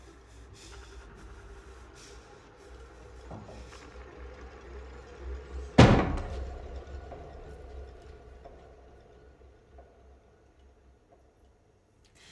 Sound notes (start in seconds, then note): 0.1 eerie music; 5.9 item thudding